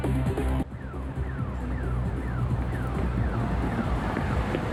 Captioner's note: car alarm blaring